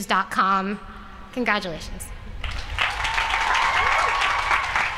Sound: applause

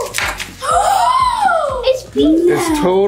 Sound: gasping

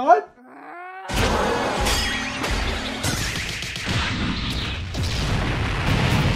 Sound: sounds of brutal yet cartoony violence off-screen

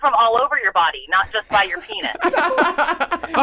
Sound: Rob laughing

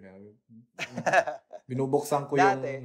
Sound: laughs

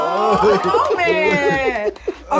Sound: clapping

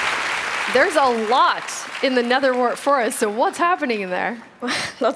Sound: applause

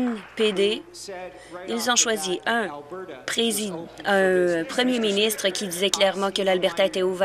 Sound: applause

